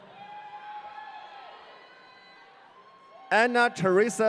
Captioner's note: audience cheering